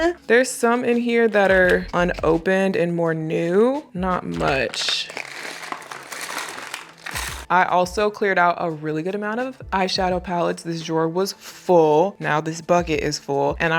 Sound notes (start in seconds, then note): 5.6 eyeliners clacking